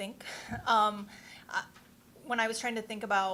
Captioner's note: chuckling